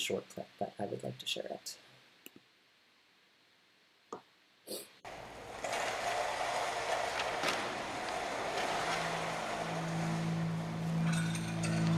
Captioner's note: sounds of loud footsteps on tarp, grim organ drones